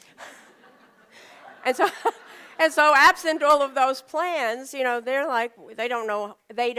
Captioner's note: laughter